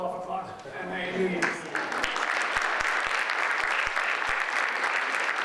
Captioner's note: audience applauds